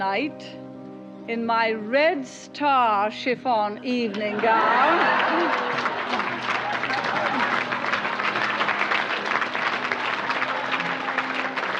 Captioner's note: applause